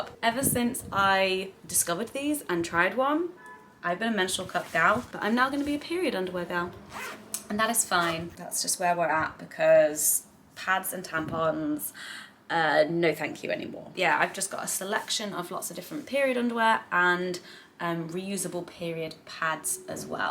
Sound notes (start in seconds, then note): 6.3 zip buzzes